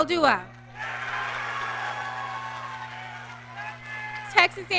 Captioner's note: audience cheering